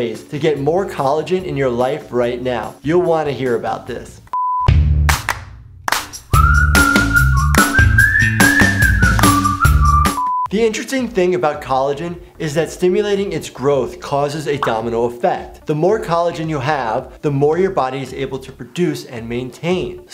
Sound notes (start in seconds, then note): 4.4 electronic tone beeping; 4.5 upbeat music